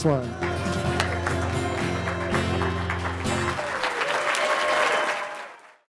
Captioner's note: audience clapping and cheering